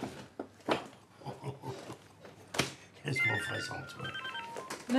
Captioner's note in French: Il rit